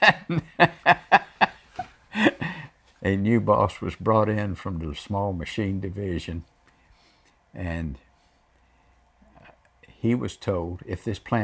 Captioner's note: laughs